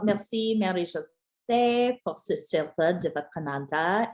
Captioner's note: french spoken